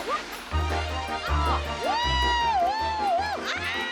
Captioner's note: whooping